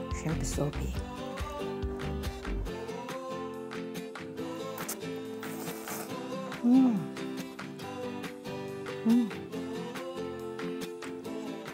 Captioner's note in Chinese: 啜泣聲